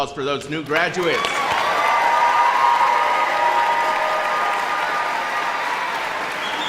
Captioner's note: audience cheering and applauding